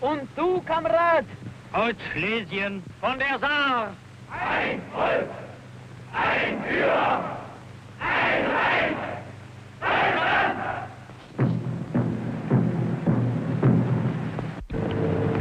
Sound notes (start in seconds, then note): 0.1 Nazi speaks in German; 4.7 Nazis chant in German; 11.6 drums pounding